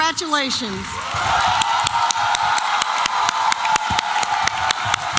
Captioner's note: applause and cheering